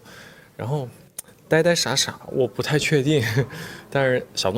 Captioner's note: laughs